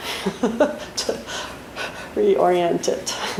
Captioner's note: laughs